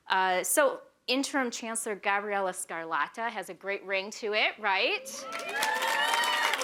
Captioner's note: cheering, applause